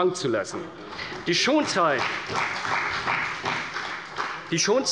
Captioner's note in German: Beifall bei der CDU und dem BÜNDNIS 90/DIE GRÜNEN